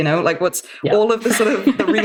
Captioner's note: laughing